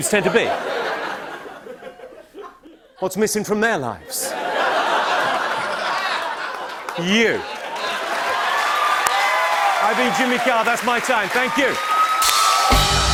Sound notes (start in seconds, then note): 0.0 laughter; 4.1 laughter; 7.5 cheers and applause; 11.0 cheers and applause continue